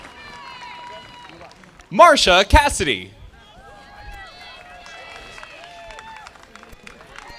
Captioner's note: audience applauding